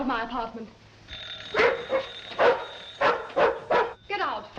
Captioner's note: barking